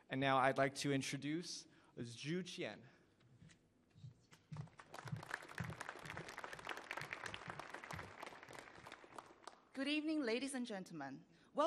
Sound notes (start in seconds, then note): 4.5 applause